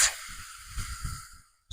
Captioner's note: quiet hiss